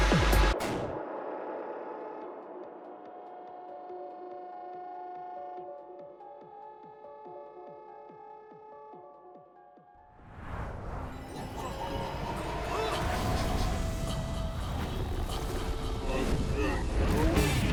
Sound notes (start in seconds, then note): 11.3 distant laughter; 15.1 deranged laughter